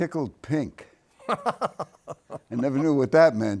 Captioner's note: laughing